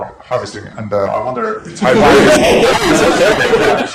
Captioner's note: laughter